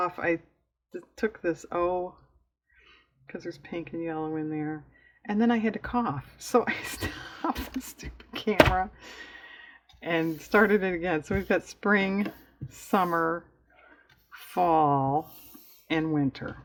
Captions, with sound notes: i took this "o" because there's pink and yellow in there and then i had to cough (laughs) so i stopped the stupid camera and started it again so we've got Spring, Summer, Fall, and Winter